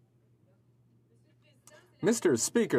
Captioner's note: speaking French